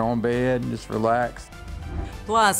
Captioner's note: graphics whooshing